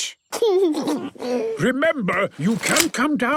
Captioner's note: George snorts; giggles